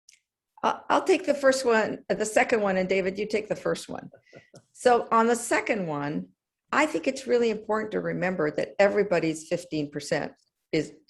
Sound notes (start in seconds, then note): 4.1 laugh